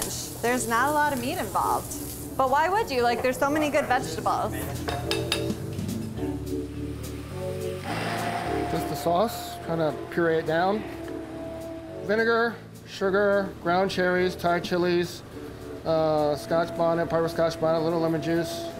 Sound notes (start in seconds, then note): 5.8 upbeat music; 7.9 immersion blender whirring